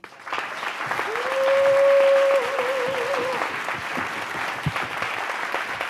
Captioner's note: audience claps; audience member cheers